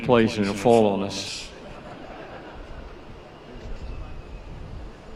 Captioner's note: laughter